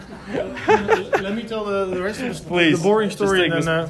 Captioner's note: laughter